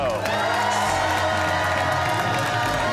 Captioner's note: cheers and applause